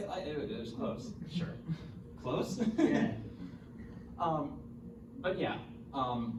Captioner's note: laughs